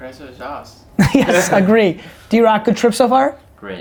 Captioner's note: laughter